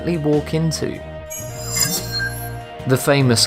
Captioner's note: sharp chiming